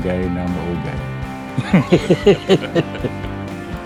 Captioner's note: laughing